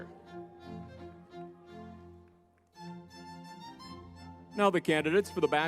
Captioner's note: crowd cheering; lively music